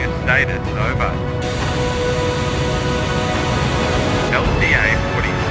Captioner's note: Static